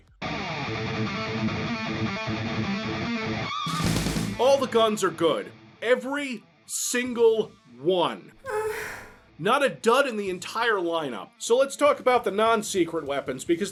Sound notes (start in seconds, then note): 0.2 metal music; 8.4 orgasm